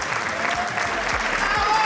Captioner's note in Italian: applauso